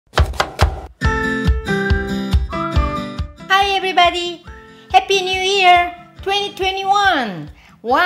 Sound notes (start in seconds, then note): 0.1 upbeat music; 0.2 knife tapping